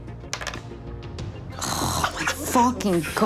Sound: dice clattering

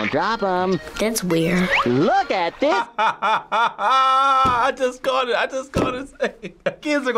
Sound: laughs

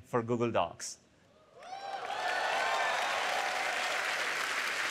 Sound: applause

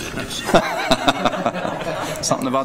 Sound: board members laugh

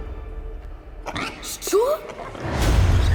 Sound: oinks

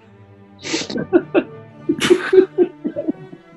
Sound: laughter

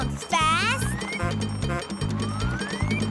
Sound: honking

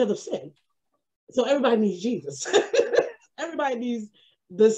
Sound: laughs

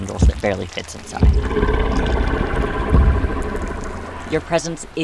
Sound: Azazel Growls

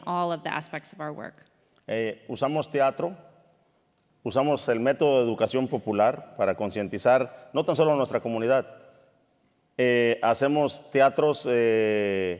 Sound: speaking in Spanish

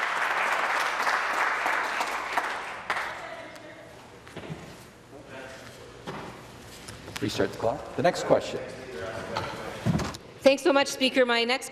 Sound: applause

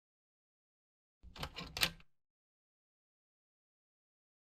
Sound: door opens

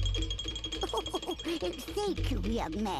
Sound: giggles

